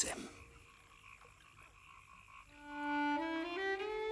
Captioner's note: frogs croaking